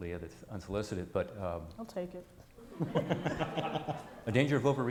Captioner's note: laughs